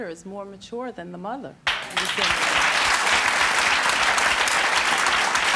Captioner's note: audience applause